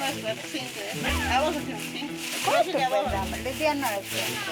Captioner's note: villager speaking in foreign language; speaking in foreign language; villager speaking in foreign language